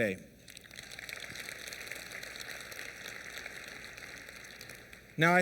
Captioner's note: applause